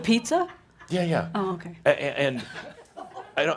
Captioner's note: a few chuckles